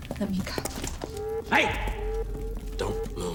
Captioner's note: alarm blaring